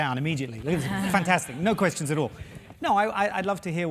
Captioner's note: laugh